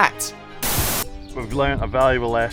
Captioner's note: static buzzing